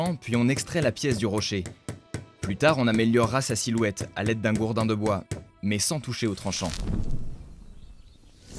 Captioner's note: hammer